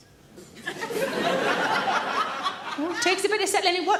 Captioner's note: audience laughs